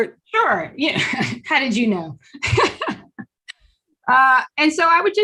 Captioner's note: laughs